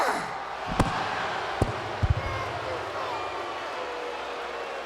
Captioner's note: crowd murmuring